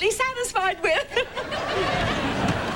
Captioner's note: laughing